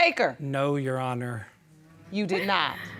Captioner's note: audience murmuring